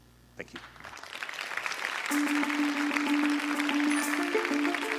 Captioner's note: applause